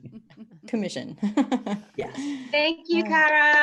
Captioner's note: laughs